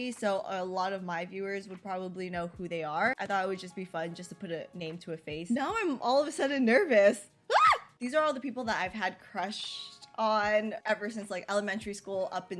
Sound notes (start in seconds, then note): 7.5 screams